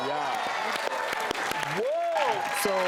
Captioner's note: crowd applause